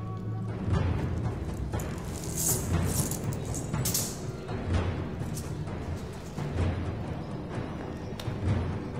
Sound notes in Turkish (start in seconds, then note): 1.4 Şıkırtı Sesleri